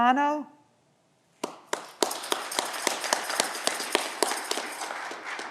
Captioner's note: audience clapping